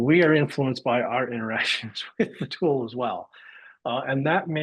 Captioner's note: laughs